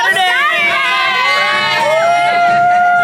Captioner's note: people cheering